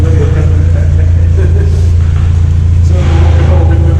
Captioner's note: chuckling